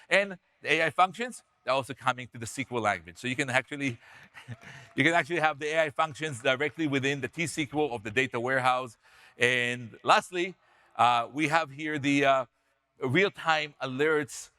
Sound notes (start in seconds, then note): 4.1 audience members cheer; 4.3 chuckles